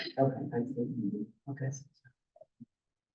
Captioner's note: muffled voice